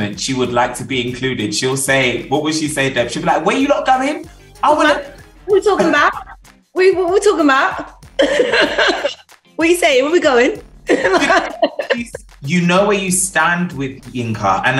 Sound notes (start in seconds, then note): 8.2 laughs